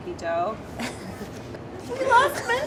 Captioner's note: laughs